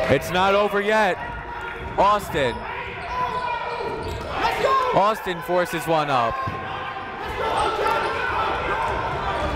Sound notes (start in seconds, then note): 3.1 shouting; 6.7 shouting